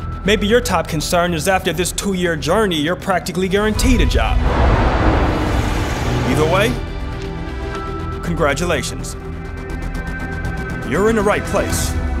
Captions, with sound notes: Maybe your top concern is after this two-year journey, you're practically guaranteed a job. (car engine revving) Either way congratulations, you're in the right place.